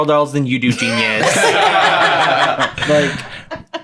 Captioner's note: all laughing